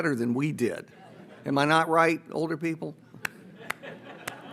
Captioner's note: audience laughs; claps